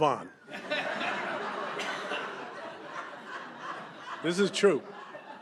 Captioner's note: laughter